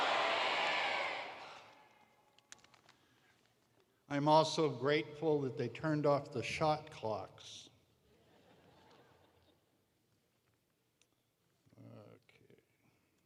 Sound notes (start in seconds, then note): 2.7 laughter